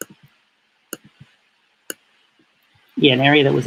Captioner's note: click